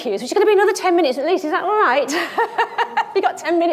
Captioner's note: laughs